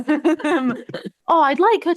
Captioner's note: laughter